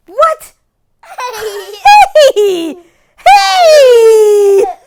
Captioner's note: laughing